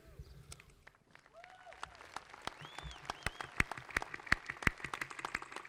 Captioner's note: audience applauding